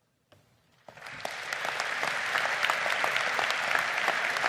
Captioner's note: crowd applauding